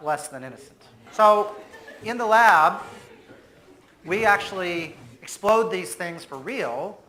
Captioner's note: audience laughs